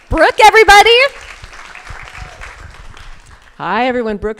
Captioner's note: crowd applauding